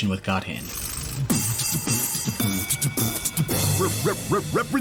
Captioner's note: beatboxes